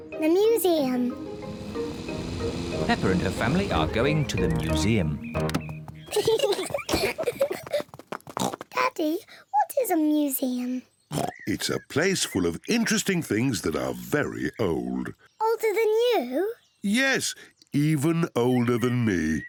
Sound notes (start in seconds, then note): 6.0 peppa and george giggling; 8.0 oinks